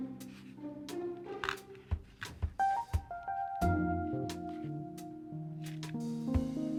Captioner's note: groovy upbeat music; plate shuffling